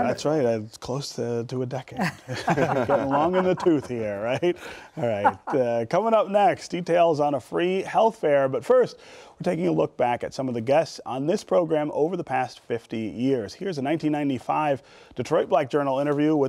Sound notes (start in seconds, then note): 2.0 laughter